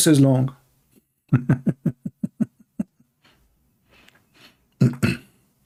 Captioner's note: Ketawa